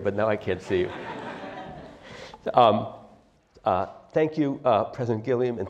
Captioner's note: laugh